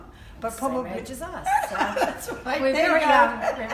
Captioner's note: laughter